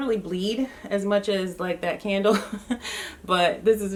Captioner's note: laughs